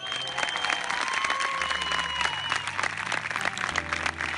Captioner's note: crowd cheers